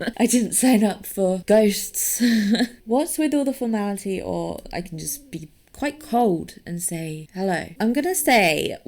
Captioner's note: laughs